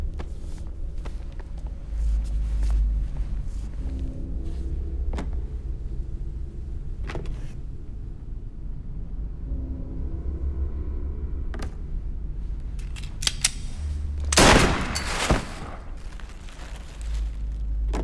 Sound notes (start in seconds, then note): 14.2 gun cocks; 14.3 gunshot